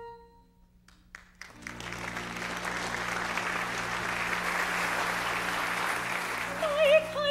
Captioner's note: applause